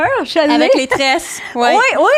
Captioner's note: in french